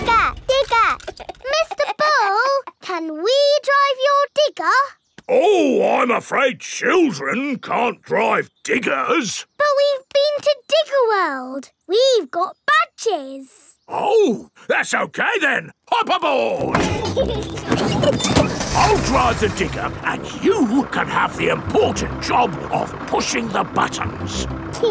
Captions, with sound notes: Digger! Digger! (CHUCKLES) Mr. Bull, can we drive your digger? Ooh, I'm afraid children can't drive diggers! But we've been to Digger World. We've got badges! Oh! That's okay then. Hop aboard! (PEPPA AND GEORGE LAUGHING) I'll drive the digger, and you can have the important job of pushing the buttons.